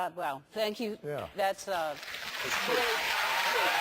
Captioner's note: applause